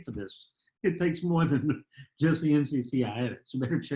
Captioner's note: laughter